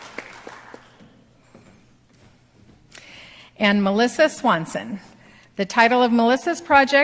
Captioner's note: applause